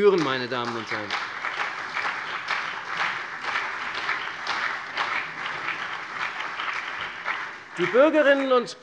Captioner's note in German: Beifall CDU und BÜNDNIS 90/DIE GRÜNEN